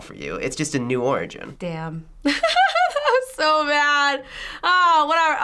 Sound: laughs

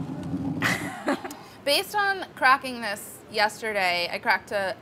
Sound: laughs

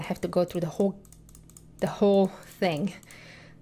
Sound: mouse clicking

